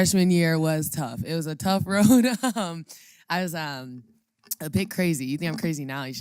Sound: laugh

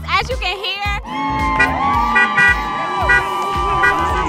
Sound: crowd cheering

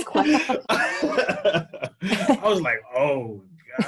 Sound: laughing

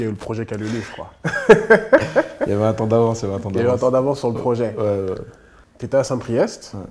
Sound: laughs

